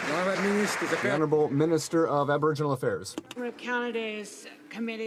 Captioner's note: some Applause